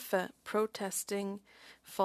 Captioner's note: speaking French